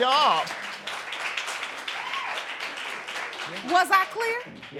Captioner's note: applause